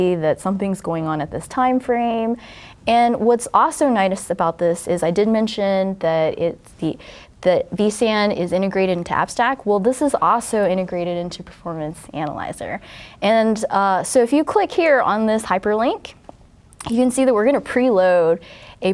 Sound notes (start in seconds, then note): none